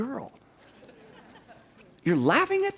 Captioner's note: people laugh